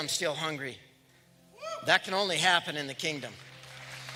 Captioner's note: applause